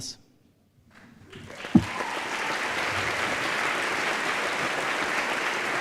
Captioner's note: applause